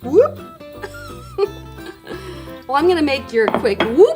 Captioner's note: laughing